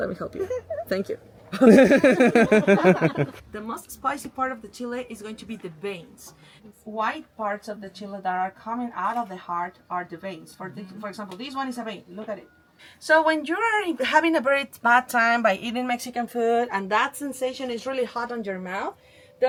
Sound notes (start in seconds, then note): 1.5 laughing